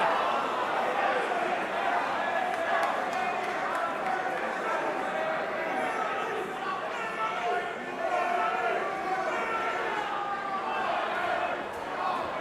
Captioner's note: crowd chatter